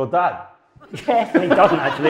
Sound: audience laughs

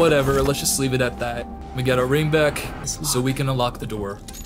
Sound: none

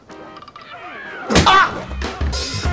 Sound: crack

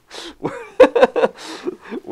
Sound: laughter

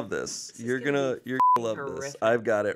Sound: beep

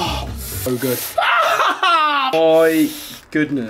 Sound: crying a little

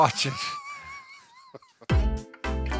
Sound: both laughing; slow upbeat music

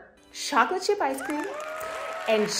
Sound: applause sounds

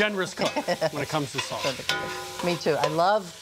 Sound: laughter

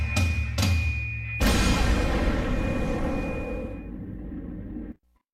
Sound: explosion

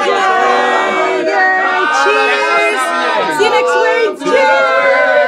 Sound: all shouting

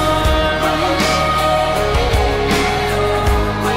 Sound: wooooh oooooh

